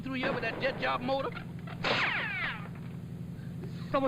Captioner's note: bullet whizzing